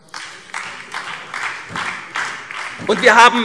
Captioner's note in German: Beifall